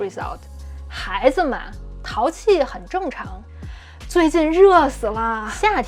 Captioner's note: speaking in Mandarin